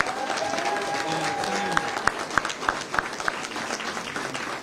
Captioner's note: cheers; applause